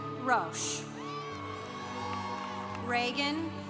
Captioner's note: congregation applauding